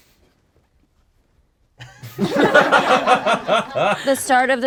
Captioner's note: group laughs